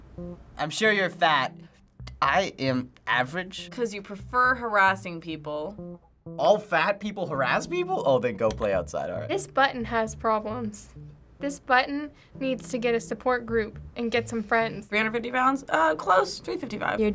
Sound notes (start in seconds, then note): none